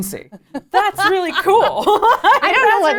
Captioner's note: laughs